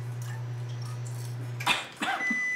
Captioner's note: coughs; microwave beeps